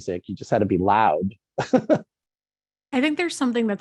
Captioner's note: laughs